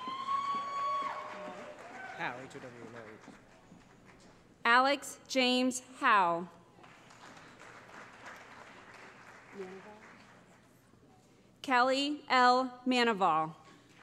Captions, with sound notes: [ Cheering ] Alex James Jowe [ Applause ] Kelly L. Maneval